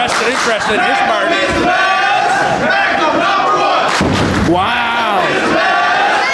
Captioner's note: audience chanting for Magnum